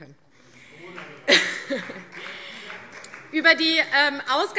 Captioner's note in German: Vereinzelter Beifall CDU - Zurufe